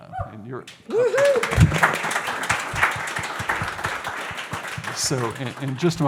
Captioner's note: audience applauds and cheers